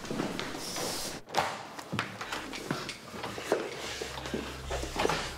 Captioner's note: footsteps plodding; door clattering